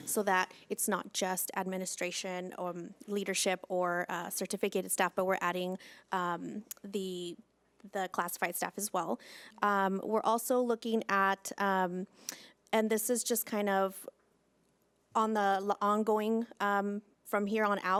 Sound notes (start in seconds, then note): none